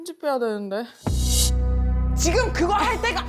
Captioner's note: serious sound effect